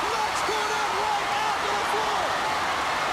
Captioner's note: crowd cheering